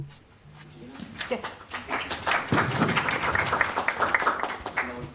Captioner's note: applause